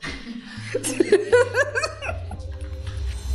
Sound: laughing

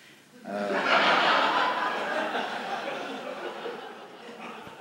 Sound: laughter

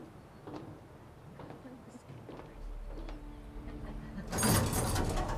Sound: chatter

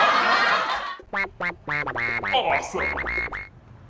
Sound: audio laugh track; edited in a deep voice

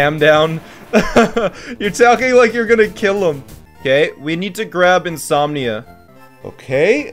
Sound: laughs

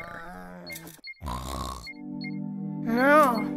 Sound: snoring

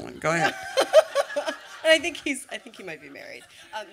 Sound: laughter

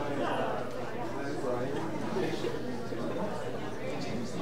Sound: audience chattering

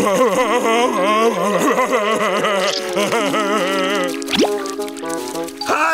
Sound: crying

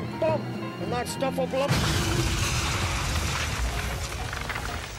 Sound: loud explosion

